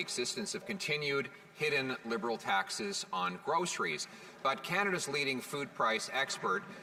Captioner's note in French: voix de l'interprète